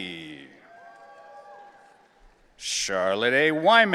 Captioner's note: audience cheering